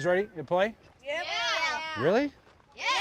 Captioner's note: yelling loudly